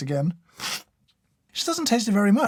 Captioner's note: slurp